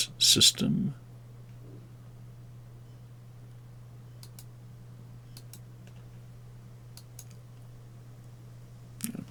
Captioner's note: mouse clicking